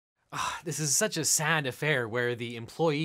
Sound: scoffs

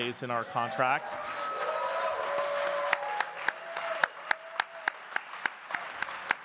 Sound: audience cheering and clapping

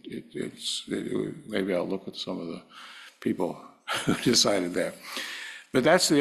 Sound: laugh

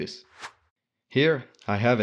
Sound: whooshing

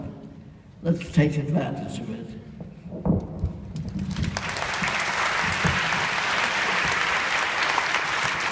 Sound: audience: clapping

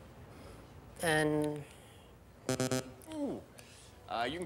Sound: bell buzzes

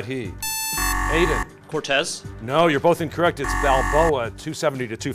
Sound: buzzer

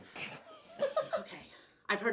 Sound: laughing

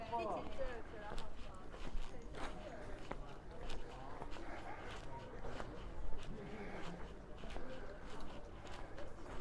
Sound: background chatter

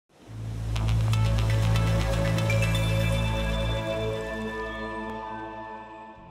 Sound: water flowing; bright music

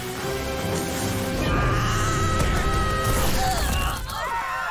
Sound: screaming

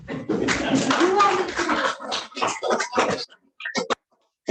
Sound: audience applauds

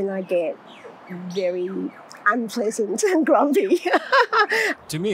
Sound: laughs

